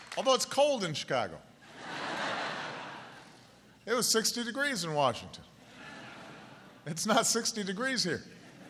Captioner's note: laughter; laughter